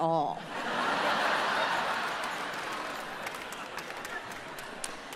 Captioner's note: audience laughs